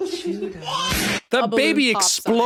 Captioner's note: baby whines; balloon pops